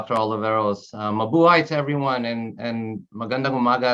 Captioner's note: speaking in a foreign language